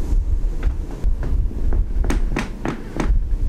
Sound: bed creaks

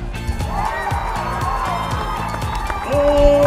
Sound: cheering

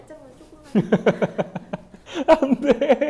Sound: hahaha

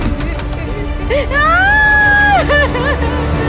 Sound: crying out loundly

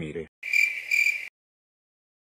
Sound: cricket sound

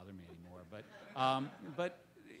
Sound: audience laughs

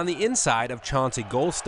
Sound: crowd

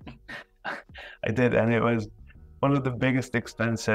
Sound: laughing

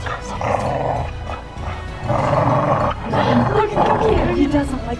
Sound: dog growling

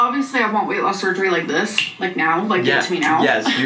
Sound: snaps

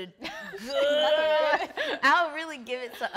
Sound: laughs

